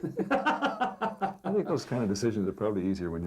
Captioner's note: laughing together